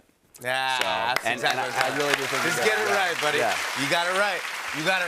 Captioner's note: cheers and applause